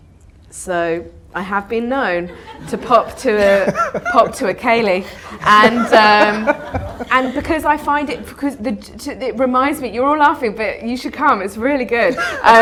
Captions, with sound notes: So I have been known to pop to a ... pop to a ceilidh and, ( AUDIENCE LAUGHTER ) and because I find it because it reminds me, you're all laughing, but you should come. It's really good.